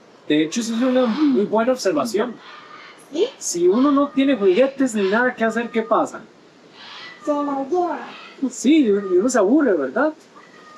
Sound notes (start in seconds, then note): 0.0 in Spanish